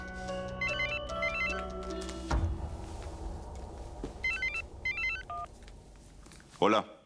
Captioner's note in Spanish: Suena el celular